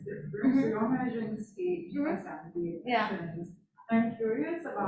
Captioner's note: faintly speaking